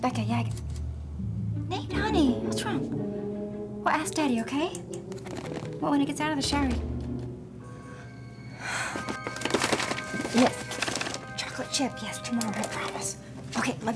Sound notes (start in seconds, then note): 6.9 door opening